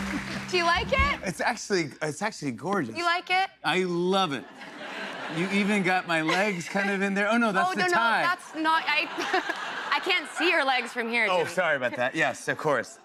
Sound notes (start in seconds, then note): 4.4 laughter; 8.7 laughter